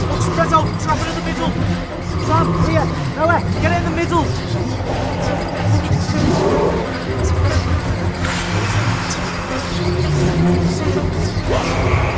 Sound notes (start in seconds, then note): 6.0 muffled gargling; 11.4 intense music rising